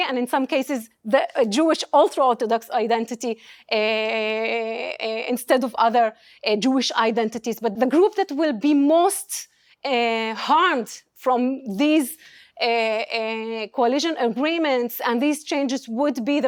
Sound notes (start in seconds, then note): none